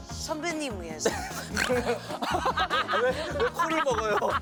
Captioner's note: cracked up